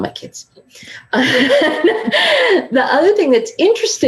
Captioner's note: laughing